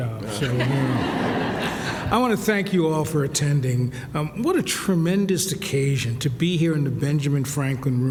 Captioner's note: laughter